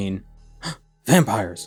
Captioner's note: gasp of utter and undeniable shock